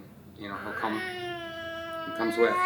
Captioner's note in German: DJ weint